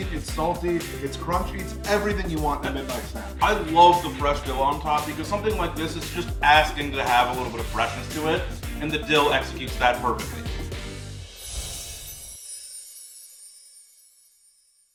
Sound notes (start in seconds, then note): 12.0 bells jingle